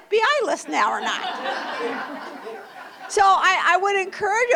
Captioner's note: laughter